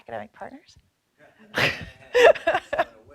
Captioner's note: laughing